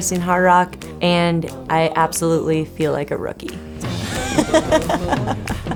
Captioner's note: laughs